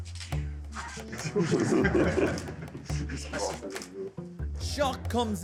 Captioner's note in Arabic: يضحك الجمهور